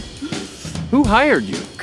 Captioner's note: Ulysses crying